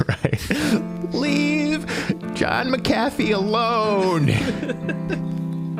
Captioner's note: laughing; fake crying; all laughing